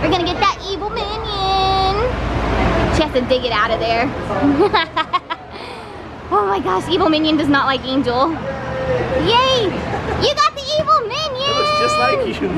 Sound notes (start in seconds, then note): 4.5 laughing